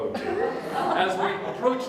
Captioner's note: audience Laughter